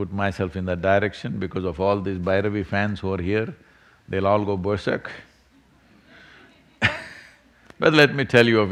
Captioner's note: laughs